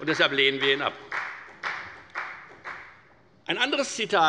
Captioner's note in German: Beifall bei der FDP